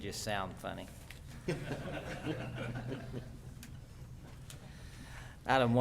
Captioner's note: laughter